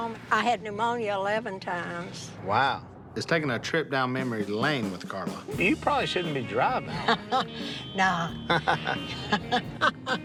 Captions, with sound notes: I had pneumonia 11 times. - Wow. Is taking a trip down memory lane with Carla. You probably shouldn't be driving. - [laughs] Nah. [laughter]